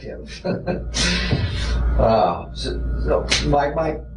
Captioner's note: doctor laughing